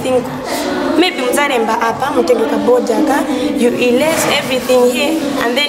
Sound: local language

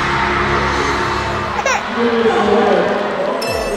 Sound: also cries

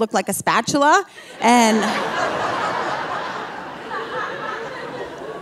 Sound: audience laughing

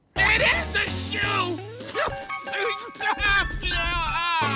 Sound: spitting

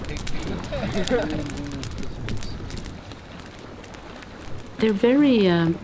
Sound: laughter

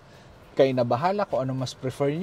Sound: none

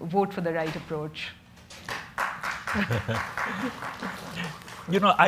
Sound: audience clapping

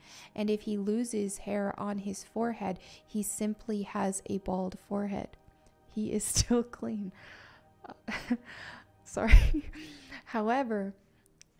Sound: laughter, sorry

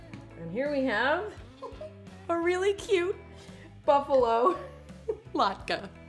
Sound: laughs

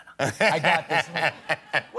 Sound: laughter

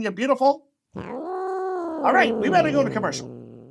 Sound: growling

